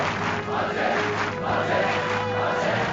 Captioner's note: cheers; shouting and whistling